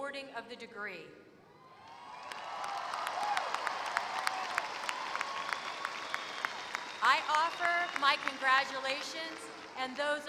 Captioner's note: applause